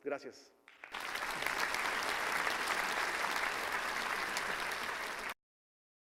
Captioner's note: clapping